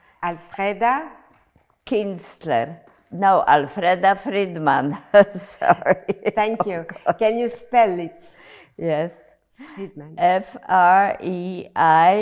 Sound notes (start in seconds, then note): 5.7 laughing